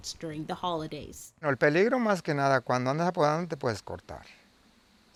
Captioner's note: speaking foreign language